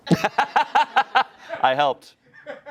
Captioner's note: laughing